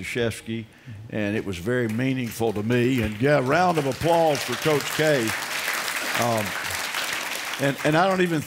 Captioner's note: applause